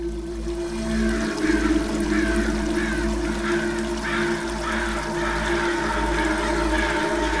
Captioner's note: crows crowing